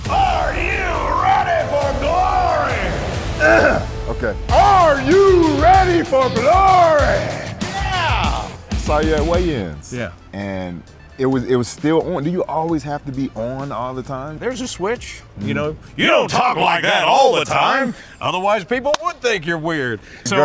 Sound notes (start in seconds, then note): 1.9 intense dramatic music; 3.3 Spice clears throat; 6.4 intense rock music